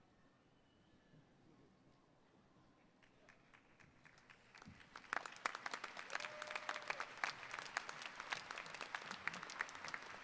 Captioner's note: applause